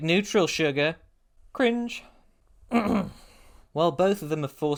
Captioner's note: ahem